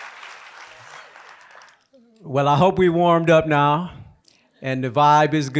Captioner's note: applause